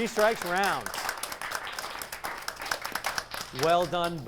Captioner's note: applause